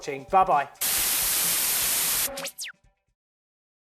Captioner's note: static noise